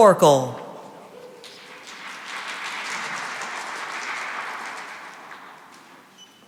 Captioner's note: cheering and applause